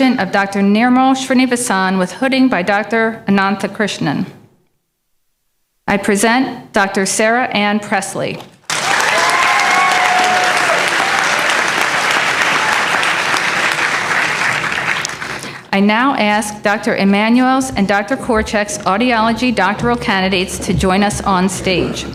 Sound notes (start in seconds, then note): 8.6 applause